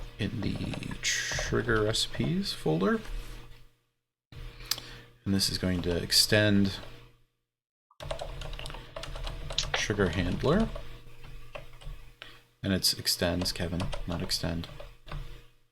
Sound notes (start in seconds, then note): 8.0 keyboard keys clanking